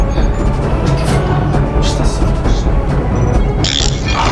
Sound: grumbles something

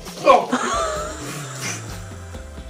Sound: laughing

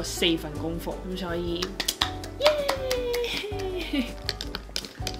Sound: applause for myself

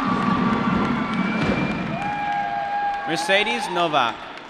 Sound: drumroll; applause

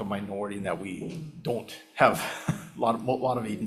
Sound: chuckles

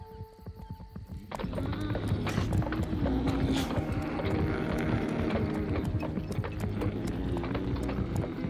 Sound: grunting

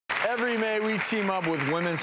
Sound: audience applause

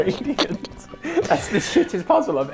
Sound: laughs

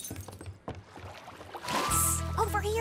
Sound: glass shatters

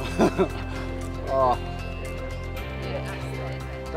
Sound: laughs

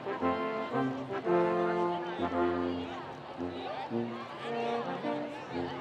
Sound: students chattering

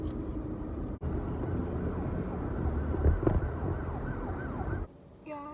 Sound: sirens

